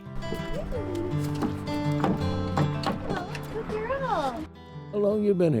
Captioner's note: paws thud